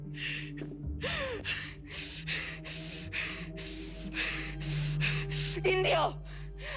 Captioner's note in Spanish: Respiración agitada